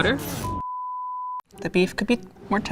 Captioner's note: screen beeping